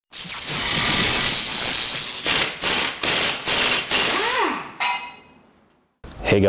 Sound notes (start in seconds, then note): 0.2 electric crackling